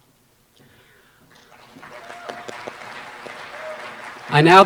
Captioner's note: applause